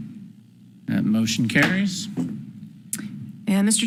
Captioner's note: gavel bangs